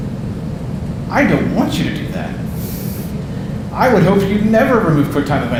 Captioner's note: audience laughing